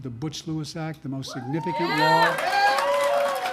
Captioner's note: applause